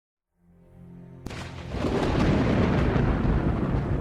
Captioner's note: storm booming